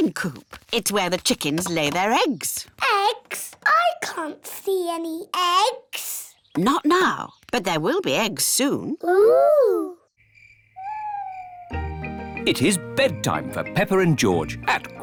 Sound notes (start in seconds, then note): 10.1 crickets chirping